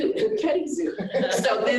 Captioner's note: laughter